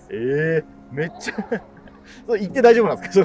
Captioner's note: laughing